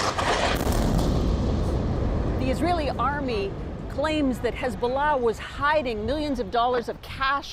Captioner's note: explosion